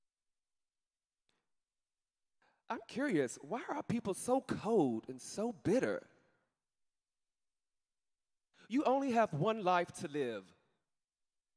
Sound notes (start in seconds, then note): none